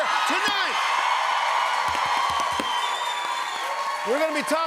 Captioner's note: cheers and applause